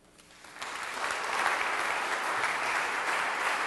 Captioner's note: applause